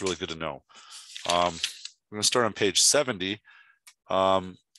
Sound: book page turning

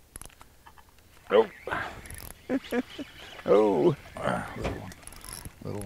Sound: reel cranking; chuckling

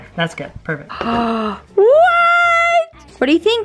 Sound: gasps

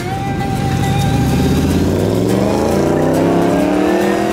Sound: car engine revs

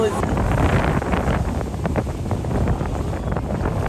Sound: wind blowing

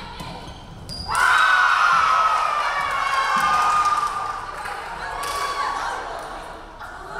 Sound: referee whistling; crowd cheering

